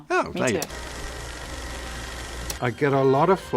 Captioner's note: projector running